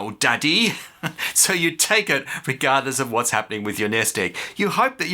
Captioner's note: chuckle